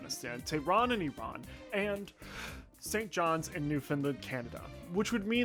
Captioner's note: deep Breath